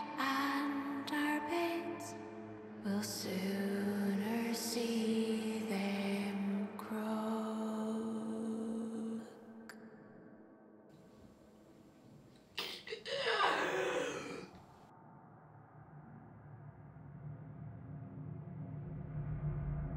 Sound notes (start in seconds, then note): 12.6 Brigit gasping